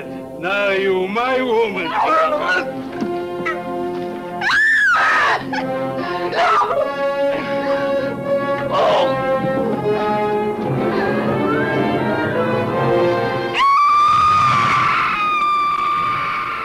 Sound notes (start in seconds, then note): 1.9 soldier grunts; 4.4 screaming; 8.6 soldier groans; 13.5 screaming